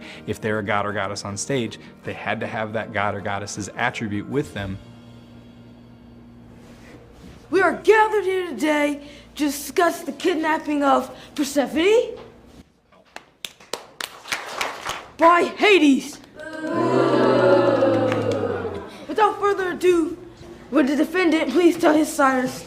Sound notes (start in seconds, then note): 13.1 applause; 17.2 booing